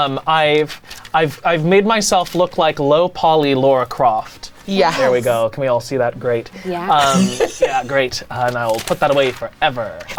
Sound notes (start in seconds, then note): 6.6 laughs